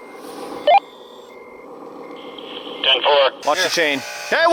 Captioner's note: beeps